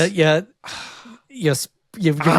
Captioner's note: sighs